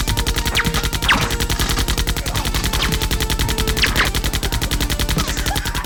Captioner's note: automatic gunfire; splintering wood; crazy laughing